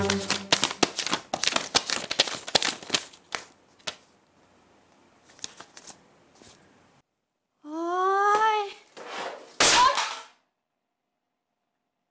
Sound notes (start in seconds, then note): 7.1 sighs